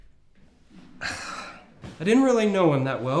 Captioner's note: sighs